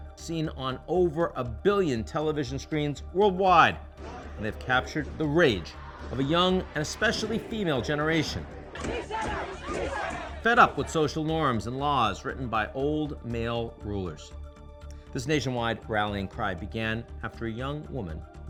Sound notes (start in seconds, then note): 8.9 protestors chanting